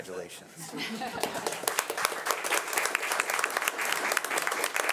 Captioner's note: audience applauding